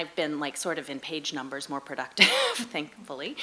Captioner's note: laughs